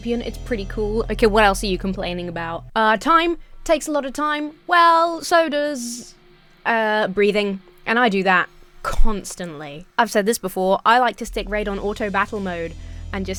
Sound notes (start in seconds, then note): none